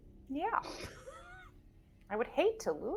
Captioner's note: chuckles